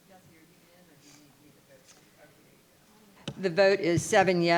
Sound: audience chattering indistinctly

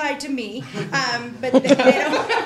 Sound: laughter

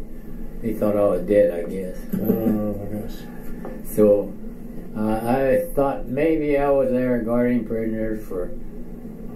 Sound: chuckles

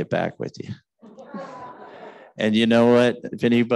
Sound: audience chuckling

